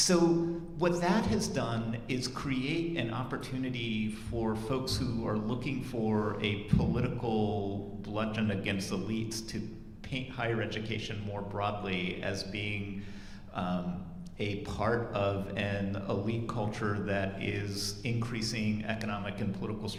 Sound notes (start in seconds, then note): none